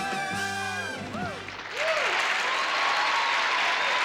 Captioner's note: cheering